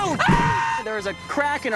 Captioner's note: screaming